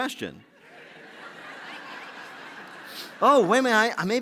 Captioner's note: laughter